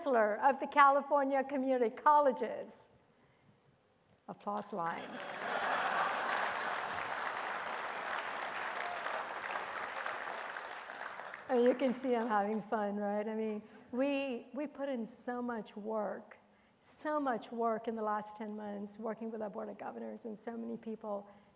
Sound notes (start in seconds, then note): 5.0 attendees applauding and laughing